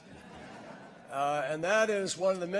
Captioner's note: laughter